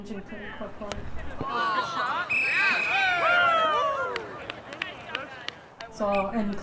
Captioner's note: whistling, cheering, clapping